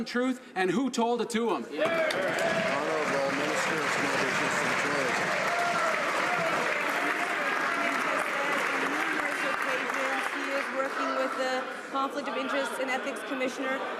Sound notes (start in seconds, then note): 5.2 some Applause